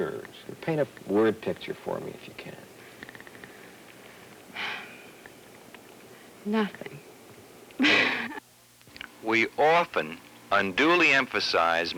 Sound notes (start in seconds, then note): 4.5 deep sigh; 7.8 laughter